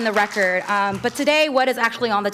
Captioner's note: applause